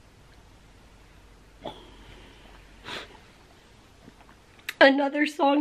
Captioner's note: crying and sniffling